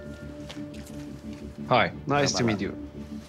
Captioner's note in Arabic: يتكلم الإنكليزية